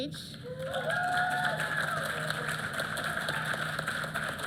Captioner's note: applause